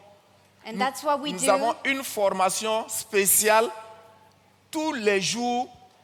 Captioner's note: continues in French; continues in French